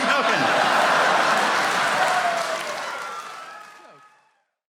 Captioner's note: audience laughing